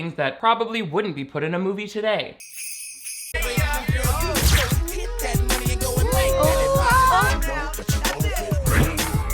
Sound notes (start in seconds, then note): 2.4 bells jingle; 3.0 upbeat music